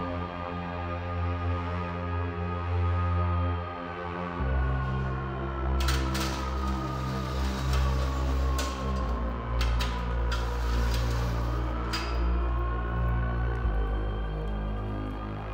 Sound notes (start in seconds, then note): 0.2 sound of elevator; 5.8 door opening; 12.2 dreamy electronic music